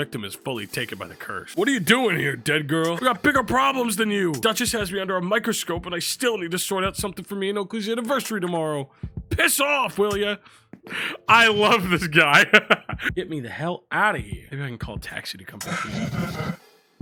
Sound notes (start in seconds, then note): 10.9 laughs